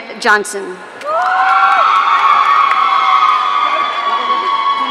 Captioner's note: audience cheering